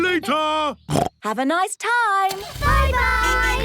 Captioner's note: snorts